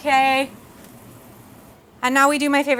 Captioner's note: nachos sizzling